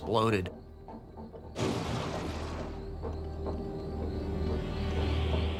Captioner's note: door rattles; blasting